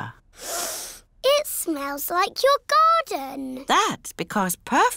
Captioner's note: sniffs